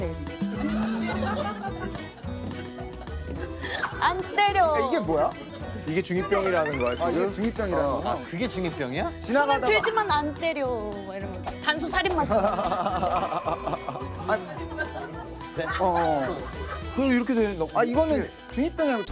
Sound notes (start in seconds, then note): 5.7 murmuring; 12.5 whiz, Whizz